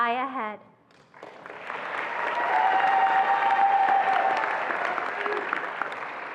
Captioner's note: attendees applauding and cheering